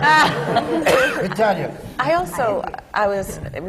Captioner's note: laughter